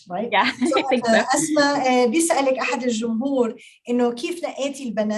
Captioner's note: speaking Arabic